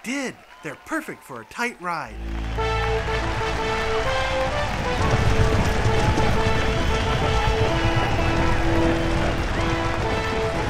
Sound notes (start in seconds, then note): 2.0 applauding; 2.1 triumphant music